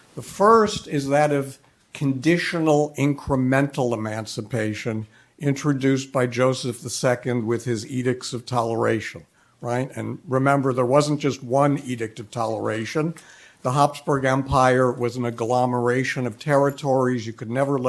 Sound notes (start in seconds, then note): none